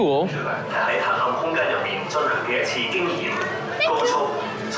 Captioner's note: announcement over speakers in Chinese